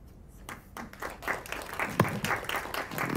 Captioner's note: applause